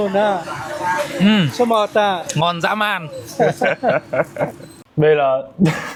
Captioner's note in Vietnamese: tiếng cười